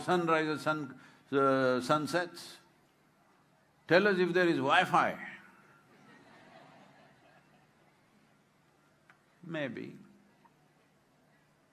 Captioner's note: laughter